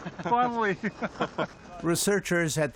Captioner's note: laughter